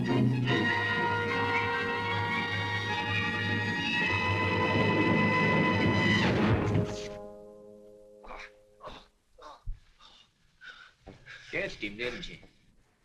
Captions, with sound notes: [ BRAVO MOANING ] Catched him, didn't you?